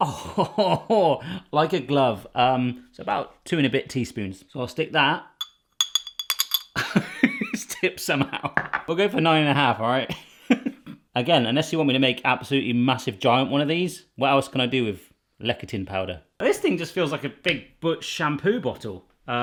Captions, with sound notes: (laughs) Like a glove. It's about two and a bit teaspoons. (clinking) So I'll stick that. (laughs) Just tipped some out. We'll go for nine and a half, alright? Again, unless you want me to make absolutely massive giant one of these, what else can I do with lecithin powder? This thing just feels like a big, butch shampoo bottle.